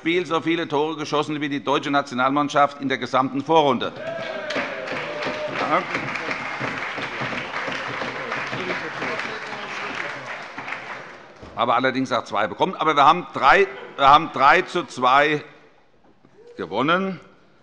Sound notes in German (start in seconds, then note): 4.0 Beifall bei der CDU, der SPD, dem BÜNDNIS 90/DIE GRÜNEN und der FDP